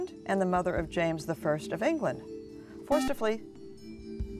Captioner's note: buzzer